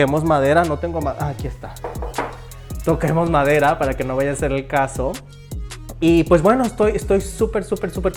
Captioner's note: knock knock